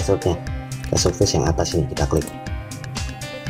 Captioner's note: click